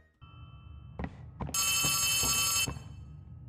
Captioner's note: phone ringing